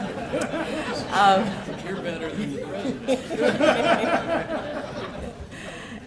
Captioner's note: laughter